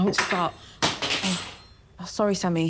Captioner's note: fork clattering